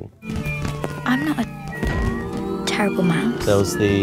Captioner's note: firetruck siren blaring